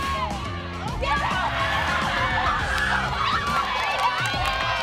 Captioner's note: cheering